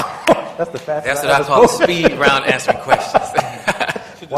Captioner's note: laughter